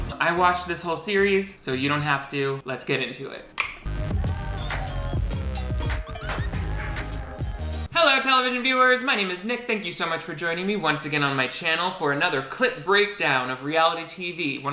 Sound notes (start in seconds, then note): 3.4 upbeat music; 3.6 snaps